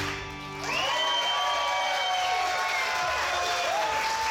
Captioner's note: audience cheering